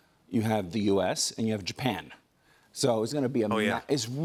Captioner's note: none